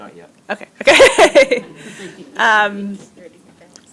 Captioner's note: laughs